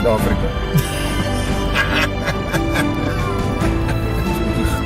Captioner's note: laughing